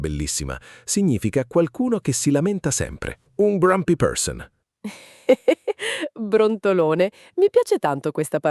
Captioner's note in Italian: risate